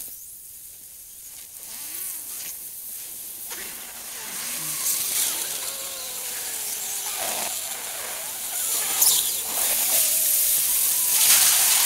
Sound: like a ballon sound when you slightly let the air go

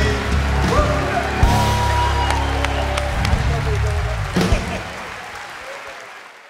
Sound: cheers and applause

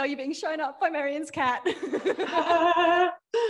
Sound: laughs; audience laughing; laughs

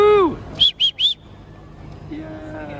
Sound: whistle

